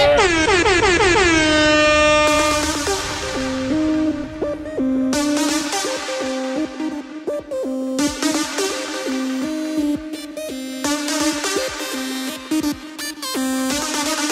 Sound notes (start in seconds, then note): 0.0 horn honking; 2.8 upbeat techno music